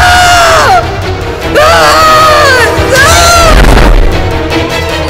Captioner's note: Amma screaming